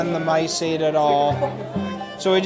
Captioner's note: laughing